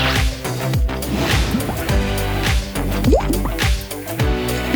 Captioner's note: bubbling